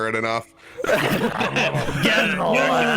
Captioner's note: all laugh